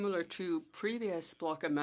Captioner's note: speaking French